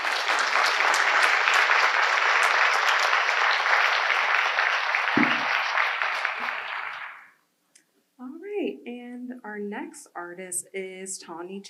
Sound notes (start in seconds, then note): 8.3 audience applause